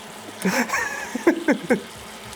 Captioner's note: laughs